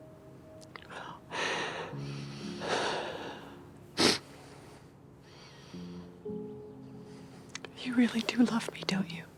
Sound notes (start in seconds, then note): 2.4 Grace sighs; 3.9 Grace sniffles